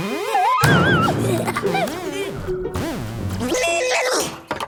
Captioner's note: laughs